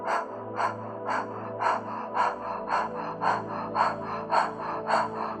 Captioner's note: breathing rhythmically